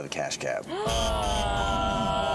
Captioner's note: gasping; buzzing